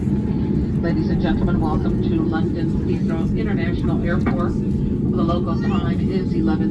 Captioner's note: announcement in Flight